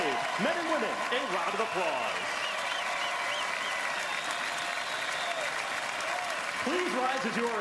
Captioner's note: applause